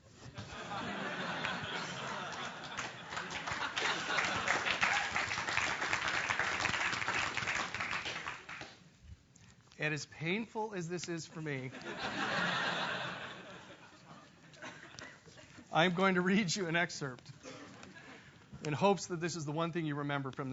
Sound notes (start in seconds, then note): 0.3 laugh; 3.9 applause; 11.6 laugh